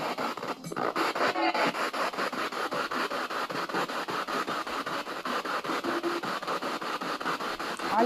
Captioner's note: radio noise from the spirit box